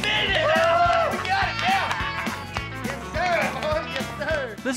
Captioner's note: cheers, claps